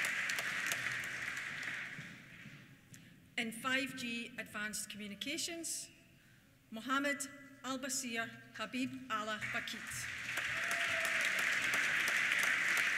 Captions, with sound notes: In 5G Advanced Communications, Mohammed Albaseer Habiballh Bakhit. (CHEERS) (APPLAUSE)